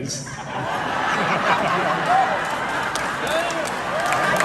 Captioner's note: crowd laughs